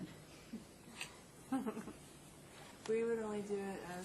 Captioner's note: chuckles